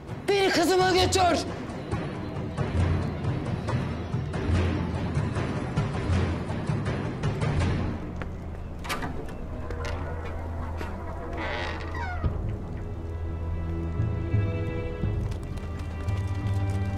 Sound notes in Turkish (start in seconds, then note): 8.5 Kapı açılma sesi; 14.6 At sesleri